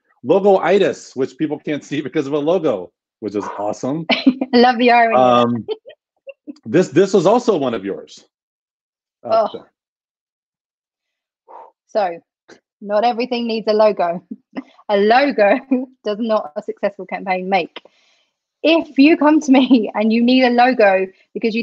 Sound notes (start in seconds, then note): 5.1 laughs; 9.4 grunts; 11.5 exhales